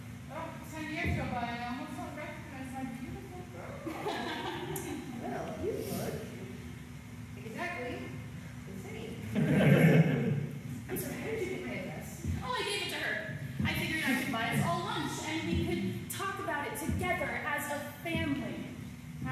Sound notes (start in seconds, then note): 3.9 forced laughter; 9.3 audience laughter